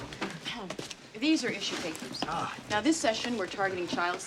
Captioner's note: clears Throat